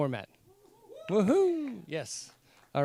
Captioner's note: cheering